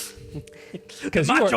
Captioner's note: laughing